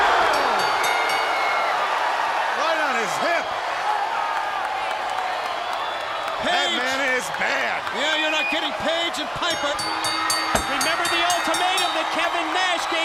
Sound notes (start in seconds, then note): 3.1 crowd cheering